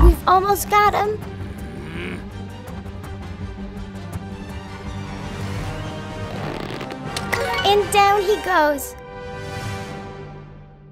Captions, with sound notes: We've almost got him. (Goliath groaning) (suspenseful music) (slingshot squeaking) And down he goes.